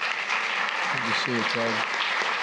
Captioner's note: applause